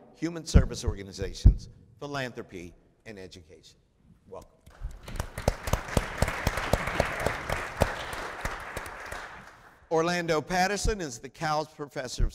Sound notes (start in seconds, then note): 4.8 applause